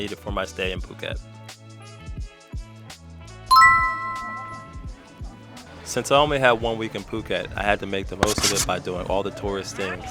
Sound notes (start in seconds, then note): 3.5 ding